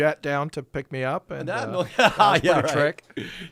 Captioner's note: laughing